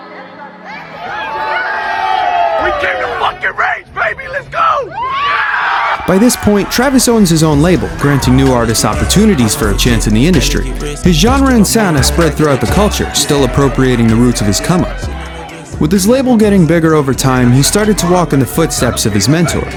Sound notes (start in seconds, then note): 0.6 crowd Cheering; 4.8 crowd Cheering